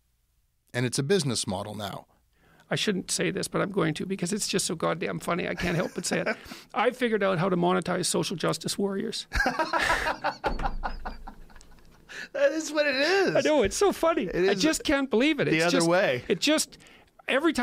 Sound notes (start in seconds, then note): 12.6 laughs